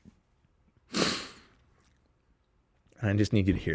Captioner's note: loud sniffing